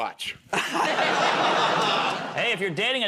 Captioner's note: laughter